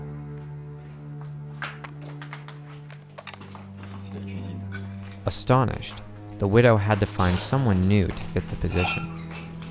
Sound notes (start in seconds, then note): 3.6 speaks French